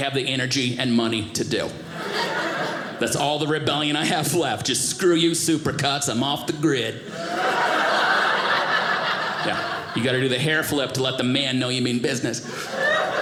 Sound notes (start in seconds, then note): 7.1 audience laughing